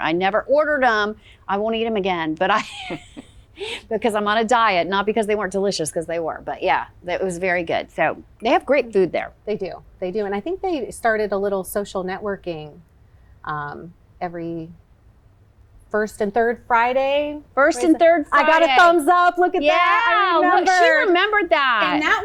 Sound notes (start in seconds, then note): 2.6 laughs